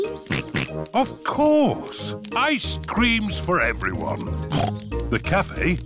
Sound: snorts

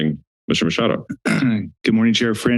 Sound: clear throats

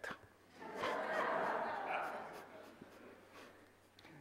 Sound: audience laughs

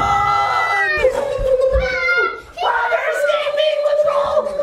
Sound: ghost sounds

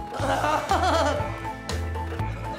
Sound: Fern laughs

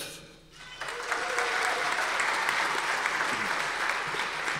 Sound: audience applause

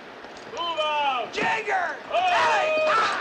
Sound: indistinct shouting

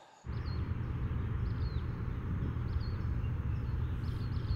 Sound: birds chirping

